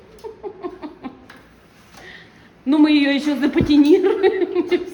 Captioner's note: laughter